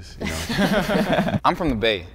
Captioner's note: group laughing